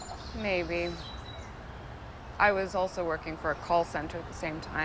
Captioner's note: none